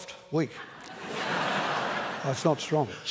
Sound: laughter

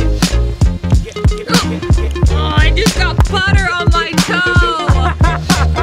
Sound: gasps; laughs

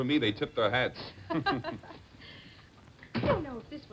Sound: chuckles

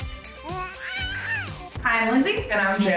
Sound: baby babbling

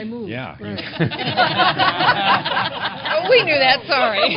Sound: laughter

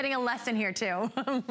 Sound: laughter

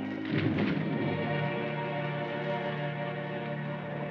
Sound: water splashing

